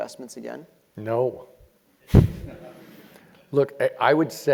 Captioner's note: laugh